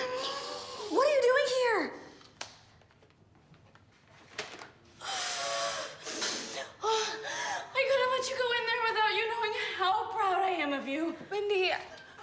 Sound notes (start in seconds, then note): 5.0 exhales heavily